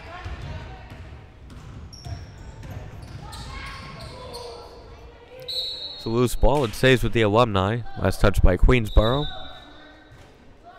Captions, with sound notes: (whistle blowing) It's a loose ball. It stays with the Alumni, last touched by Queensborough.